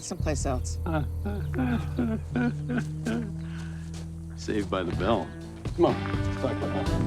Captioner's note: laughing